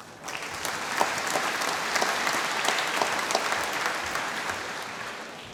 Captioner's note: applause